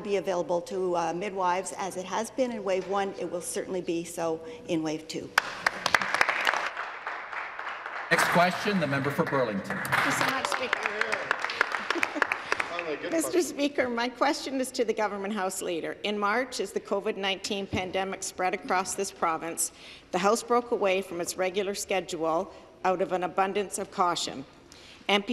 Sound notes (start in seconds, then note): 8.5 some Applause